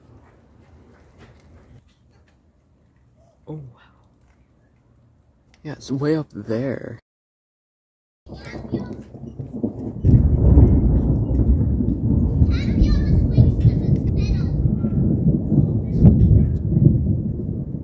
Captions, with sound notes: Oh, wow Yeah, it's way up there. [Thunder starts] [Loud thunder booms and echoes]